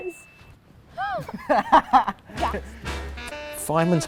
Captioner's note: both laughing